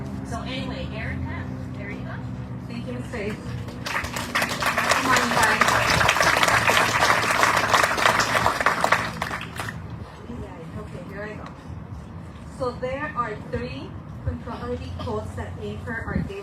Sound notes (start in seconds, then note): 3.6 audience cheering, applauding